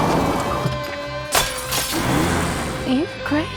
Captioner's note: engine roaring; glass cracking